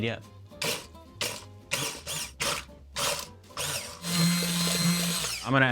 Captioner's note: blender splashes and whirs